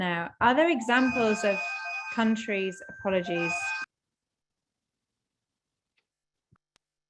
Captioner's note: phone ringing